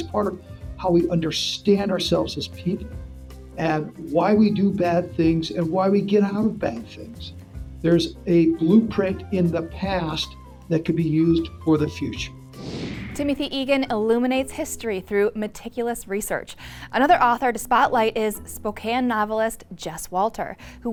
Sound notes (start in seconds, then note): 12.5 screen whooshing